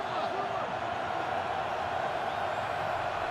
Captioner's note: crowd cheering